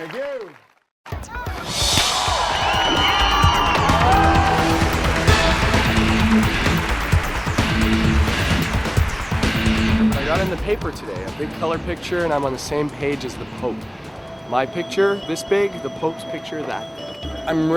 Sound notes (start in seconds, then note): 2.2 audience cheering; 3.4 thrilling music